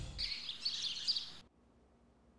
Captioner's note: birds chirping